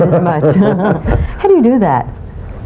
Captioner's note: laughing